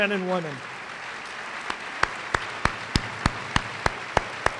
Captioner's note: applause